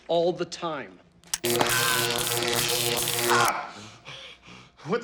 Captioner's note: zapping, screaming